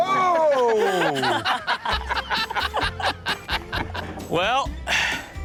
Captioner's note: all laugh